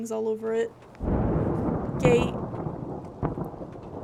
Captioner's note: thunder